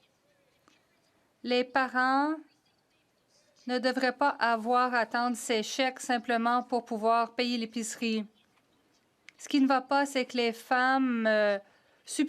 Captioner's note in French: voix de l'interprète